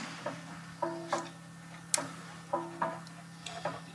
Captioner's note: soft, rhythmic banging